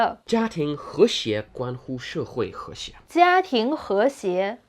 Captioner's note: speaking in Mandarin